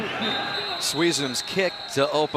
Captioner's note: whistle